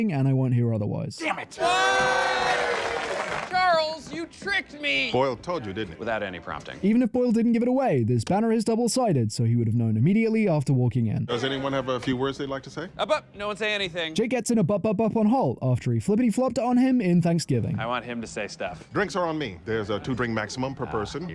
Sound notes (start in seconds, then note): 1.3 cheering